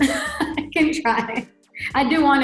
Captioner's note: laughing